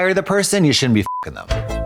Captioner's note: beep; synth bop